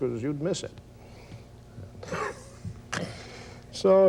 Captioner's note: laughs